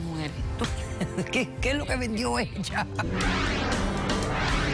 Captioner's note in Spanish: Risas